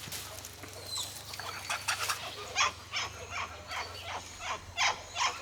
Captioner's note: monkeys chitter